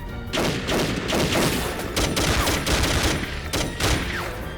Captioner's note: gunfire clattering